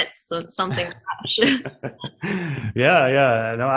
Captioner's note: laughing